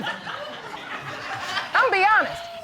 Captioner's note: audience laughing